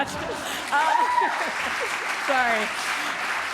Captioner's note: applause